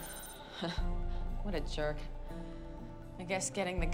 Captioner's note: scoffs